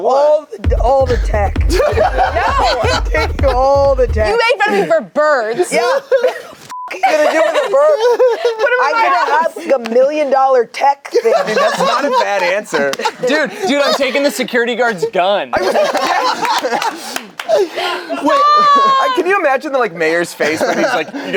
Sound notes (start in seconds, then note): 0.7 laughs; 6.7 beep; 15.5 group laughs